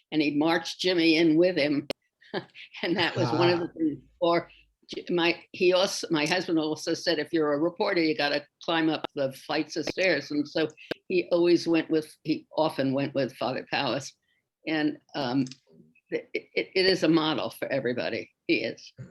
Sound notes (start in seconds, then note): 3.0 chuckles